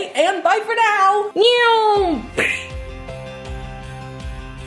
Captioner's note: mimics airplane; uplifting music